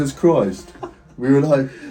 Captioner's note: laughs